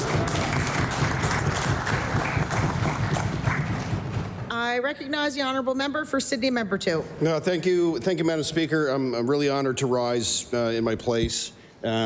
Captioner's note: applause